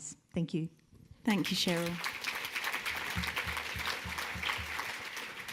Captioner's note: audience clapping